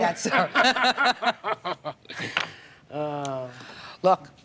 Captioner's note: Maher and Judge Judy laugh